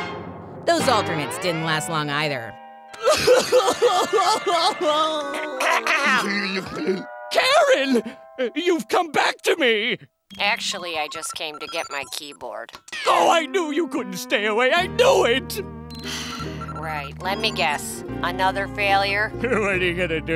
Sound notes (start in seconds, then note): 3.0 crying; 16.0 sighs; 19.4 laughs